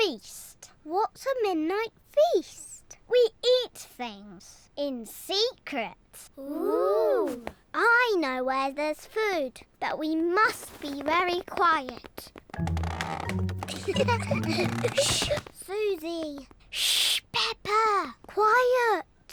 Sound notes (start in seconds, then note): 11.8 floorboards creak; 13.6 all giggle